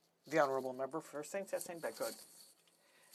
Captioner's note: speaking French